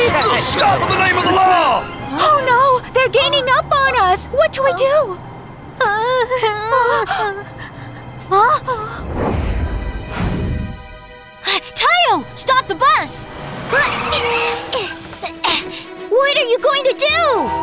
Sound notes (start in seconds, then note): 8.1 gasps